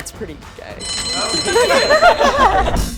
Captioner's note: alarm ringing; group laughing